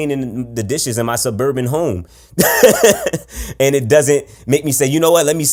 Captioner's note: laughs